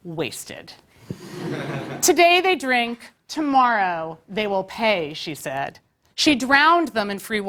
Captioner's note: laugh